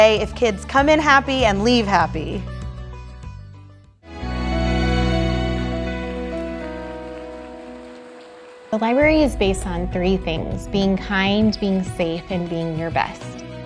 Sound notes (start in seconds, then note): 4.1 upbeat music; 5.2 audience applauding